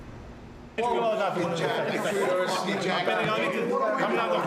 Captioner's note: all chattering